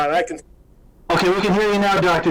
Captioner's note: audio glitches